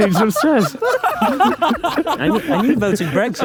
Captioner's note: group laughing